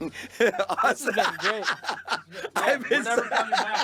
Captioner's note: laughing